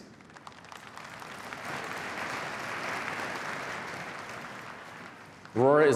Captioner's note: applause